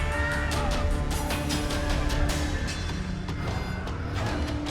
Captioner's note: horse whinnying